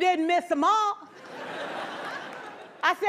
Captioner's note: laughter